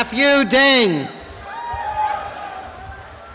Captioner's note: cheering and applause